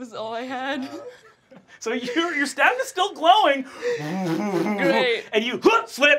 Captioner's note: grunts